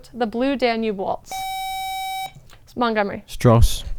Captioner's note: buzzer